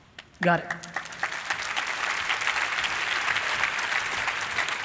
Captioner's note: applauding